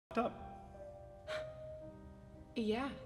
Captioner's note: scoffs